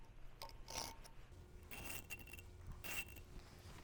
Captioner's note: pencil rubbing